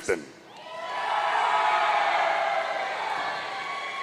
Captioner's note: audience cheering